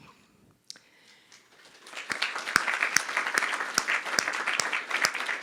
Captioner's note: crowd applause